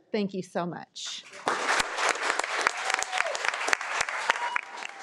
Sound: audience clapping

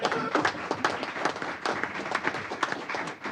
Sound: applause

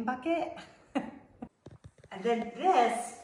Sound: woman laughs

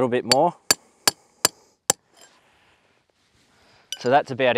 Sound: metal clacking

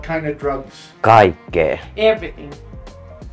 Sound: speaking in a foreign language

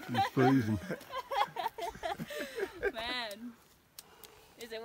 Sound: laughter

